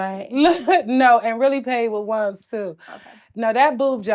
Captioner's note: laughs